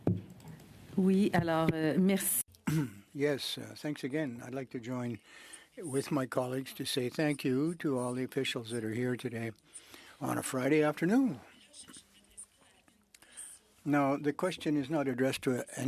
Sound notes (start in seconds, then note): 5.9 speaking French